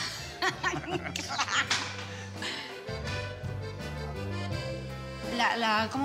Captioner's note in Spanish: risas